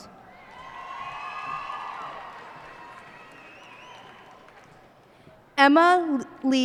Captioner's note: cheers and applause